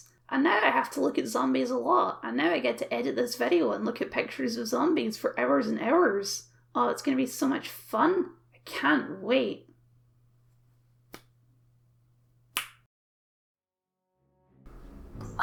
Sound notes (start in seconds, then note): 11.0 failed Limp Click; 12.4 click